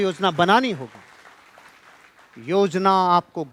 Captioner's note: rounds of applause